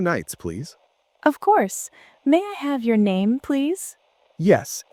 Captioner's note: receptionist voice